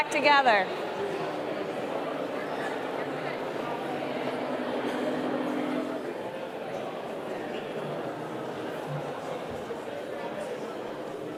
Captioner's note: background chatter